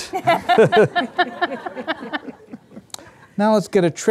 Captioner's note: audience laughing